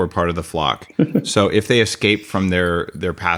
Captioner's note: laughs